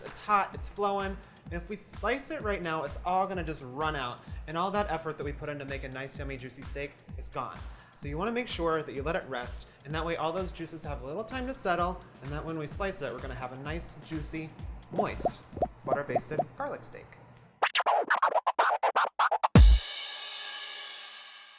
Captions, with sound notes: It's hot, it's flowing, and if we slice it right now, it's all gonna just run out and all that effort that we put into making a nice, yummy, juicy steak is gone. So, you wanna make sure that you let it rest and that way all those juices have a little time to settle and that when we slice it, we're gonna have a nice, juicy, moist butter-basted garlic steak. (record scratching)